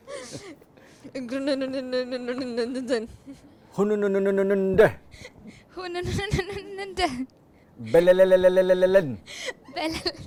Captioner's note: laughs